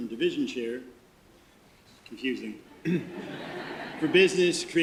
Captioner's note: audience laughter